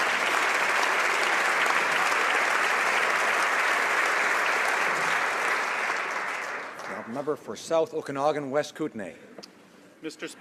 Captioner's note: applause